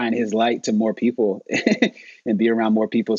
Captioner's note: laughing